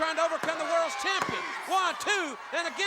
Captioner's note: hands thudding